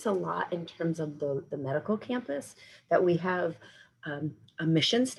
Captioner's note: none